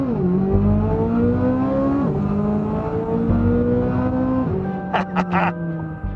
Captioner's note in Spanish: engine sounds